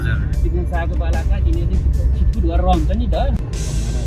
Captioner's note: indistinct conversation